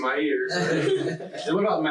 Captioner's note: laughing loudly